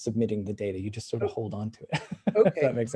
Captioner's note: laughs